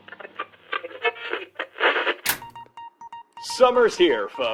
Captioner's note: tv static